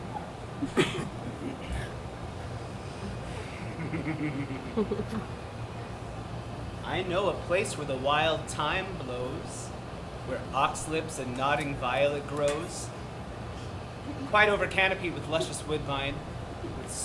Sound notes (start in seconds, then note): 3.4 Oberon laughs